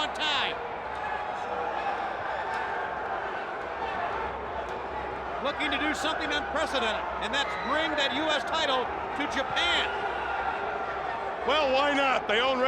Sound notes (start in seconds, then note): 4.0 crowd chatter